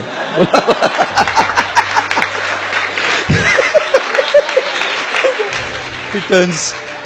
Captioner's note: laugh